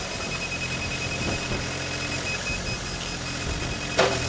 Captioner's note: machine beeping